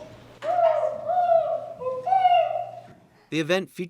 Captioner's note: boy hoots and whoops